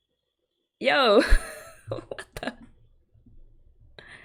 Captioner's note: laughs